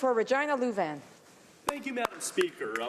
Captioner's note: some Applause